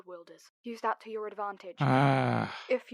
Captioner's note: frustrated Sigh